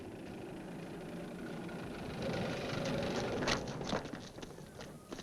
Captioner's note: engine rumbling